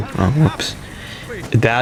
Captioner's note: inhales Oxygen